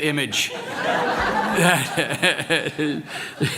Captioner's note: laughter